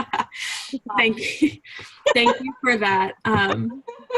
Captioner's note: laughs